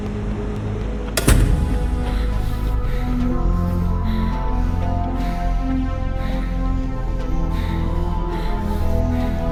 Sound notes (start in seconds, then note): 1.2 door slams; 2.1 moans and sighs